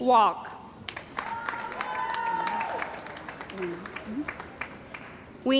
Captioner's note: cheering & Applause